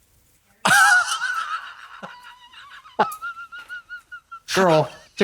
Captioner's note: Katya creaks